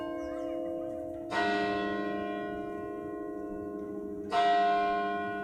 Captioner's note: bells tolling